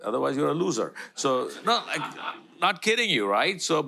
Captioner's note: audience laughter